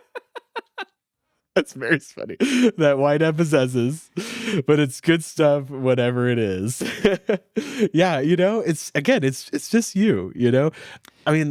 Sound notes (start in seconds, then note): 0.0 all laughing; 6.7 laughing